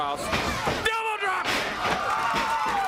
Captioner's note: crowd cheering